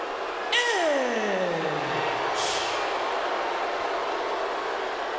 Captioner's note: crowd boos